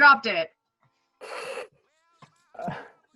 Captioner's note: maisie snorts